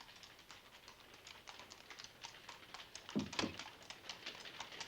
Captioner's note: horse hooves clomping